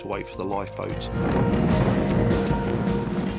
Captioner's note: boat engine revving; dramatic music